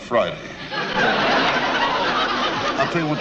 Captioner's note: audience laughs